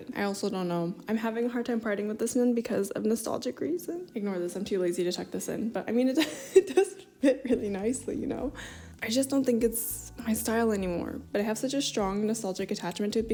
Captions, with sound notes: I also don't know. I'm having a hard time parting with this one because of nostalgic reasons. Ignore this. I’m too lazy to tuck this in. but I mean, [laughs] it does fit really nicely, you know? I just don't think it's my style anymore. But I have such a strong nostalgic attachment to it